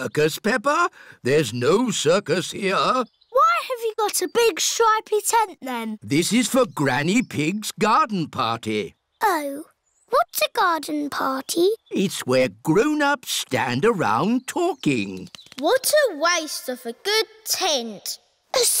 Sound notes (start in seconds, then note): none